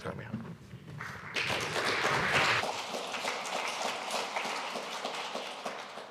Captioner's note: audience applauding